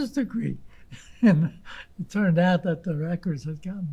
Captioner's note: laughing